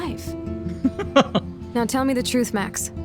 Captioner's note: laughs